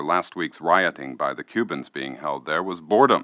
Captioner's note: archival news audio